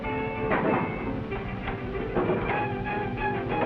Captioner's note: wheel clacks